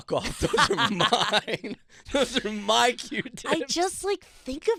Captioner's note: laughing